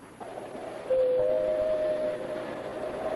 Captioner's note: rings doorbell